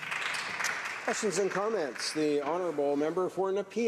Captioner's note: some Applause